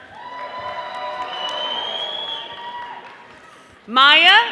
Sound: audience applauding

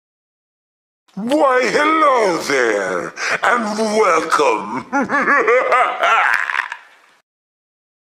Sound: funny evil cartoon voice with laugh

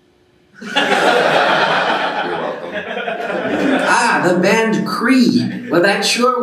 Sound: laughing

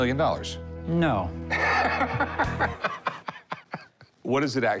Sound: laughing

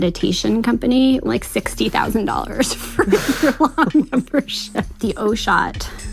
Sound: both laugh

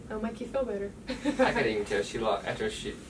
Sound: lady laughing

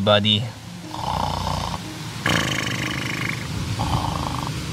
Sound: Luigi snoring

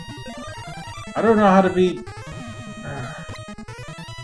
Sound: sighs

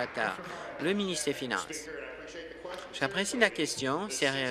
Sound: applause

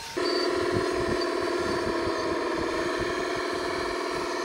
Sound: bulldozer engine roaring

